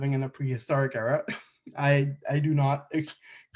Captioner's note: chuckles